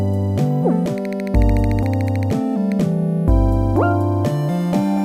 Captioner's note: clicking sound; lighthearted music continues